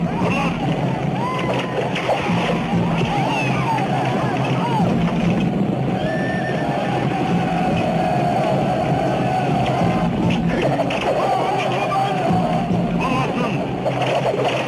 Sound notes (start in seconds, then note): 1.7 arrows whistling; 3.2 soldier crying out